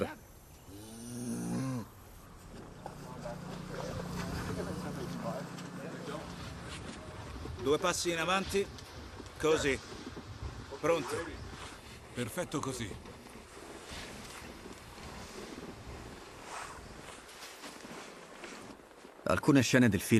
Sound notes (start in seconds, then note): 0.7 cow moos; 7.1 Revenant set chatter